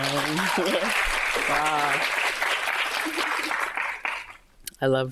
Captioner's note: audience applauding